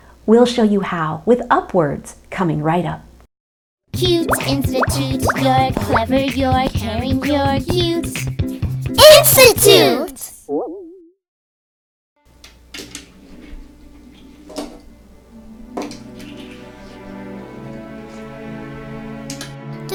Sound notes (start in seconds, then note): 11.4 boing; 13.6 gentle music